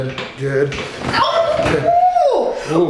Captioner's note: loud popping